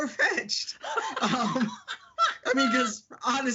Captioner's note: laughing